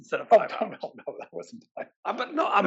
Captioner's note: laugh